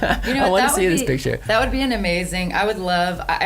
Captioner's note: laughs